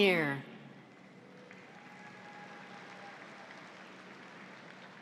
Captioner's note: audience applauds